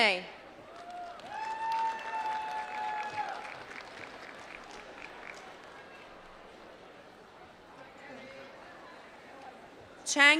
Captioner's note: applause